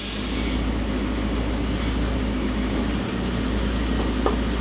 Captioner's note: telehandler rumbles